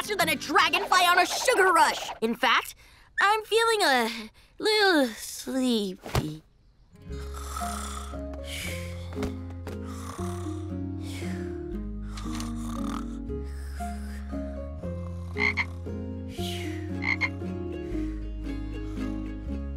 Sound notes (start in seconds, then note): 7.1 snoring; 15.1 croaking